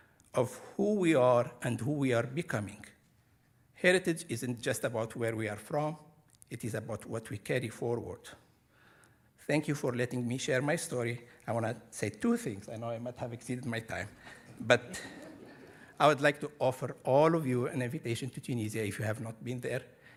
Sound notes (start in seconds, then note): 14.2 audience laughing